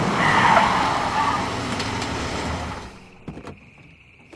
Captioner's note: tires screech; engine shuts off